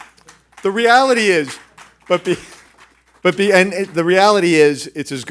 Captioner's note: clapping